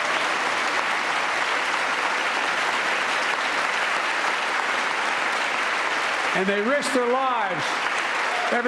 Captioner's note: applause